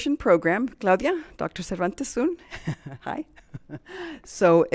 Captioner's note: chuckles